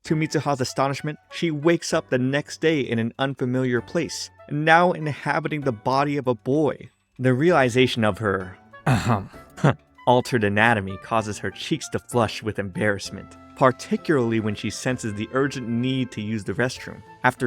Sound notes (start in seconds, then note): 8.8 coughs